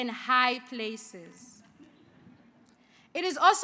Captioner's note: laughing